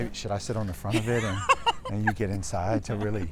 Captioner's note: laughs